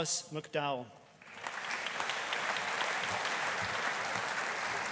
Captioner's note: audience applauding